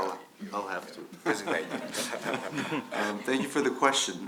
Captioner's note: laughs